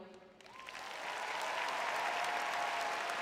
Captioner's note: cheering; applause